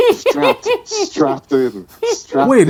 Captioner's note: laughing